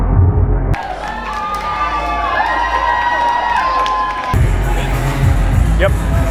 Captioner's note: audience cheer and applaud